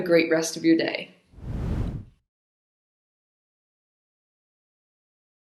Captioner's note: graphics whooshing